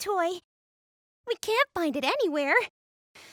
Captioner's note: sigh